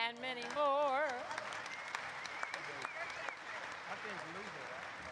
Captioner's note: applause erupts